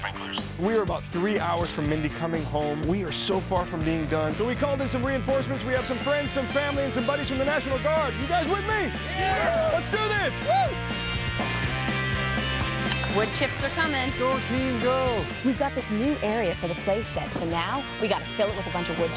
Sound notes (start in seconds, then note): 8.9 cheering; 10.3 upbeat music